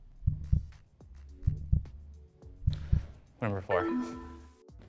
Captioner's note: heartbeat